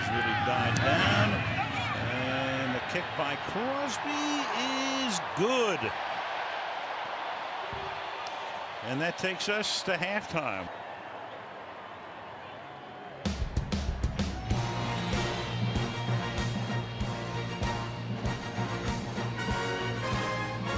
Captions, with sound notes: Wind has really died down. And the kick by Crosby is good. [cheering] And that takes us to halftime. [upbeat music]